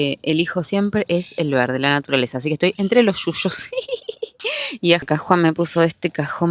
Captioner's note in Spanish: risas